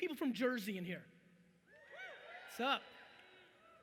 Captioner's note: audience cheering